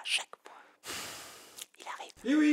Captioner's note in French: soupire